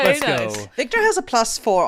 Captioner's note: claps